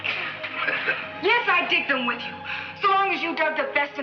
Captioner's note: Bob laughs